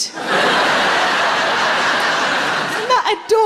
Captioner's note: laughing